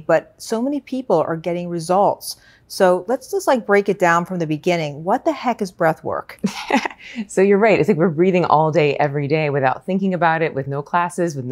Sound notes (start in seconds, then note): 6.4 laughs